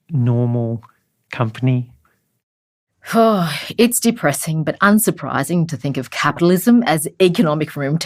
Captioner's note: voiceover